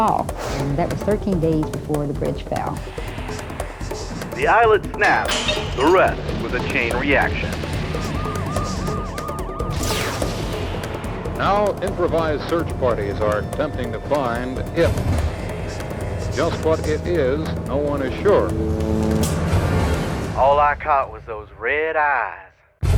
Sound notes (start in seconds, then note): 8.0 sirens wail